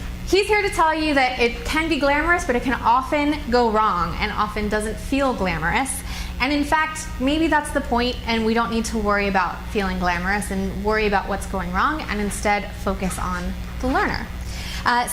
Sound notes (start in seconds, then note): none